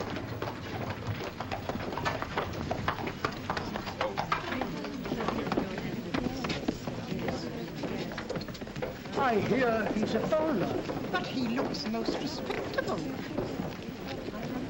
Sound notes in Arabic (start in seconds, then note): 0.0 عربة تهتز; 5.0 ثرثرة ناعمة